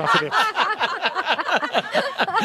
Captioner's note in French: rires